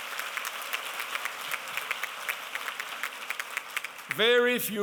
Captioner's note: applause